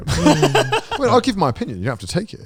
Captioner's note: all laughing